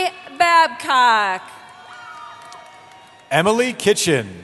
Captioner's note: cheering